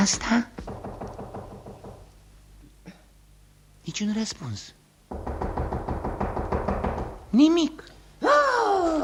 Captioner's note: she knocks on the door